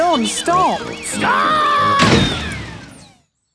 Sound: thuds

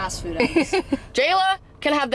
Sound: laughing

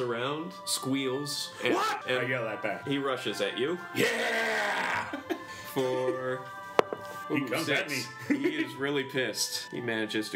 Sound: giggles

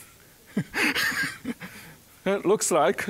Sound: chuckling

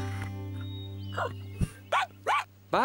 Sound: barking

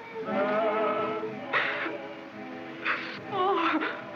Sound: sobbing

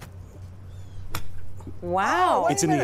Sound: laughter

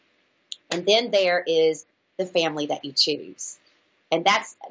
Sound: claps hands

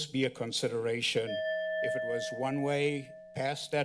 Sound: bell ring

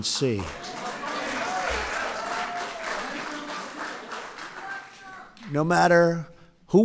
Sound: applause

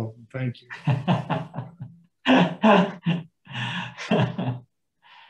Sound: laughing

